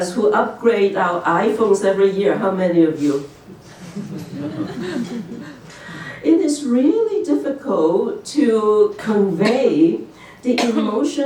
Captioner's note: laughter